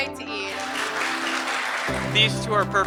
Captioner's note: crowd applauding